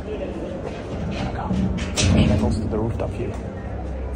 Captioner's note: whispering